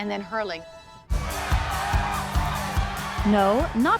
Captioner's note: crowd cheering